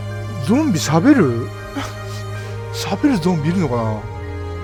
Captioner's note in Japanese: 笑い